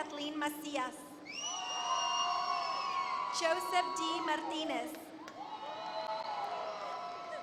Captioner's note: applause